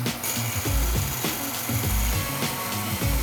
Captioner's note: grinding